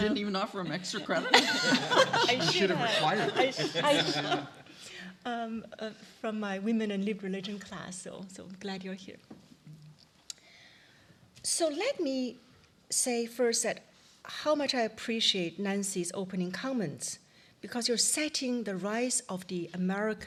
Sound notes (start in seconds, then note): 1.2 laughing